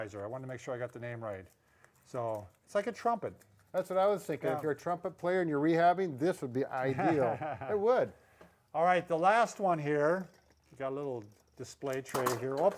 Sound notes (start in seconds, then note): 6.8 laughing